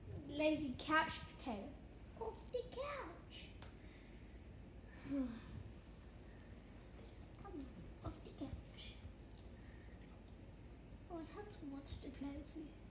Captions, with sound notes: Lazy couch potato! Off the couch! *sighs* Come on. Off the couch. Well, Hudson wants to play with you.